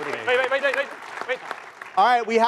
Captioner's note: applause